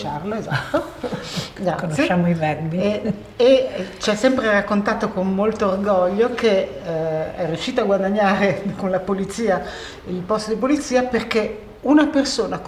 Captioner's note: chatter